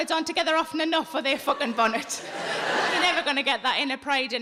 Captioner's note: audience laughing